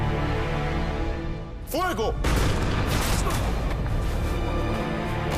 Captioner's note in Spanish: Disparos